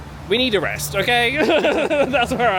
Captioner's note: both laugh